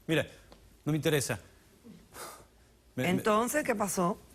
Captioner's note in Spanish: exhala